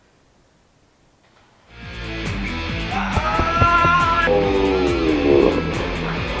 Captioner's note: battle cry; running feet